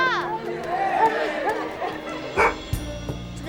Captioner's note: barking; barks